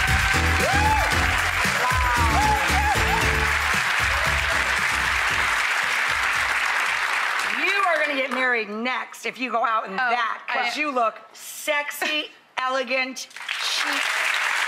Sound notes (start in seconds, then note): 1.8 upbeat music; 4.6 audience applause; 13.3 audience applause